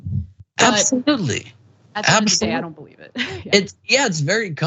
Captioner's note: laugh